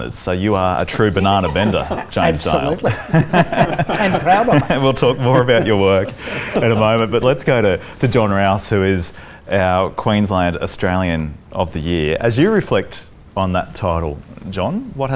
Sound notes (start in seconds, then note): 3.3 laughs